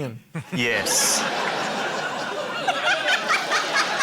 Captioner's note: laughter